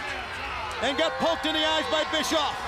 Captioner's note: crowd cheering